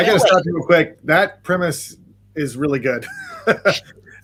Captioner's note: laughs